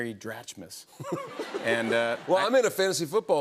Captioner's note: laughter